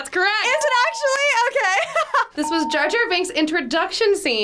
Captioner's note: laughs